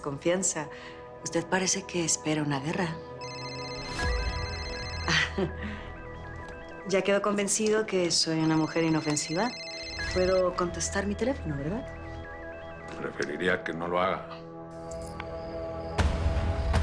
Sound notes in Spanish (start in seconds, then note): 3.2 Suena el celular